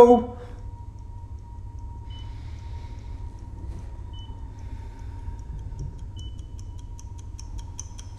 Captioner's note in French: Bip régulier de l'ECG